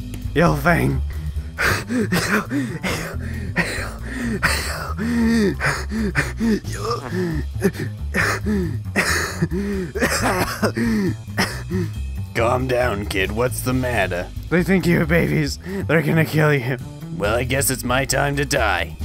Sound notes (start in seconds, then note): 2.0 Firepaw wheezing painfully; 10.2 coughing fit